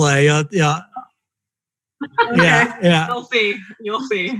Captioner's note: laughing